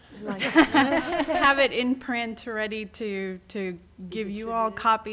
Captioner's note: laughter